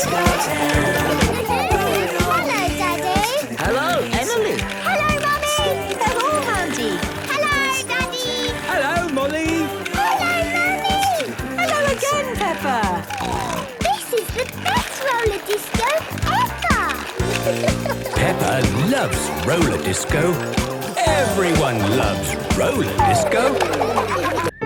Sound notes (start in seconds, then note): 13.3 snorting; 23.7 laughter